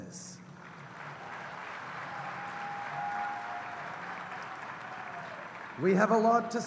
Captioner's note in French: Acclamations et applaudissements